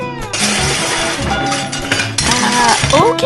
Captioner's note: crash